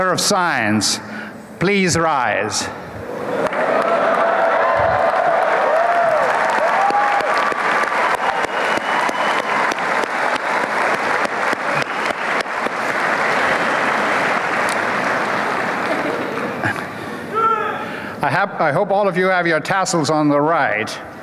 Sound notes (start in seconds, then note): 3.3 applause and cheering